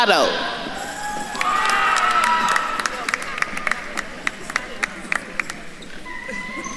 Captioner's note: attendees cheering and applauding